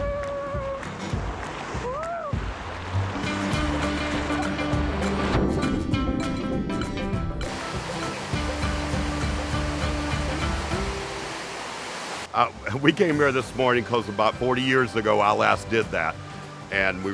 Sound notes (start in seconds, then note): 0.1 upbeat music; 4.6 water splashing